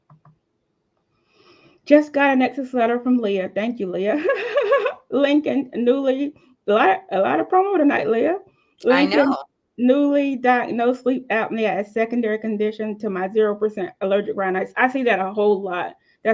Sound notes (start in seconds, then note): 4.2 giggling